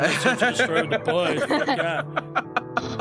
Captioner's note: laugh